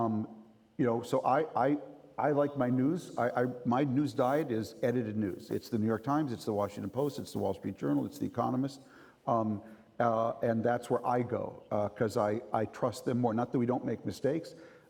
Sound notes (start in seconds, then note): none